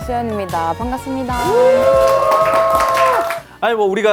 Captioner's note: cheers